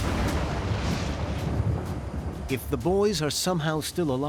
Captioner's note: thunder clapping, rain cascading